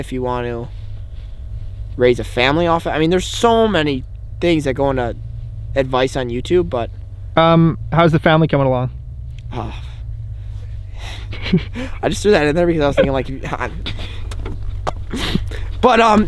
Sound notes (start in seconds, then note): 11.0 giggles